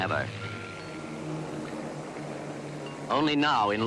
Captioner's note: airplane engines whirring